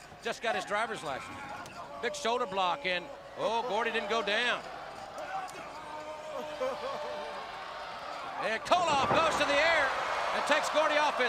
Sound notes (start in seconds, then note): 6.0 crowd chatter